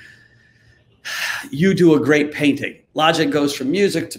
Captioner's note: sighs